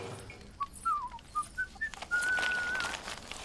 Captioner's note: whistling